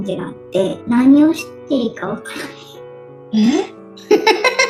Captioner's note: laughs